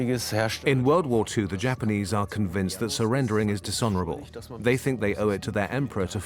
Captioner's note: in German; dubbed in English